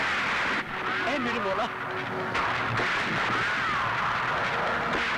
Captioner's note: Gunshot